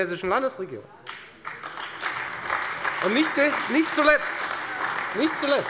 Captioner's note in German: Beifall bei der FDP und der CDU